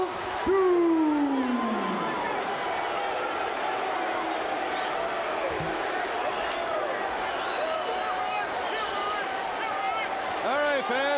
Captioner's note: crowd cheering